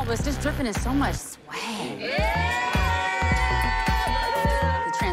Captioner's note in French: cheering